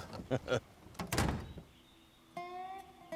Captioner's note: solomon groans, casey laughs; doors close; slow country music